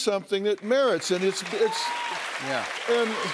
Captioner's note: cheers and applause